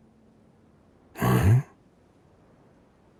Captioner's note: confused grunt